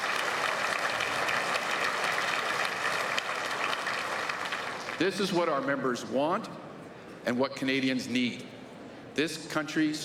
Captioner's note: applause